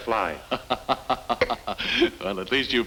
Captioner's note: TarTar laughs